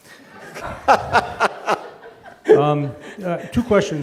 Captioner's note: laughs